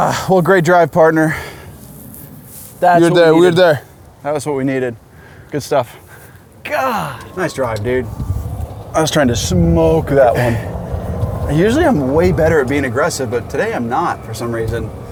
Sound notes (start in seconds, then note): 3.6 speaks Spanish; 6.9 grunts